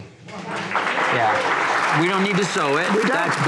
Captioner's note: applause